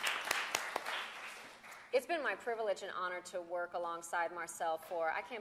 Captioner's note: applause